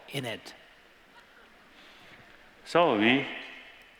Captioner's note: laughter